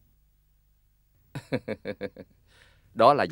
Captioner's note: laughing